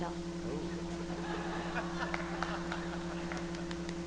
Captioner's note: laughter